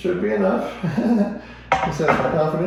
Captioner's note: laughs